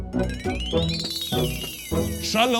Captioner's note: school bell rings